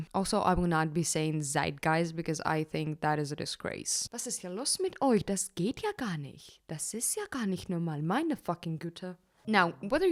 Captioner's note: German